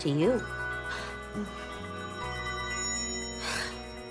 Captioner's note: cell phone rings